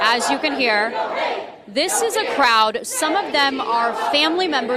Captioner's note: crowd chanting